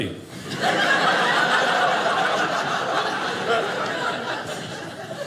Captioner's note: audience laughing